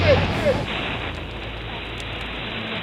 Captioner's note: radio static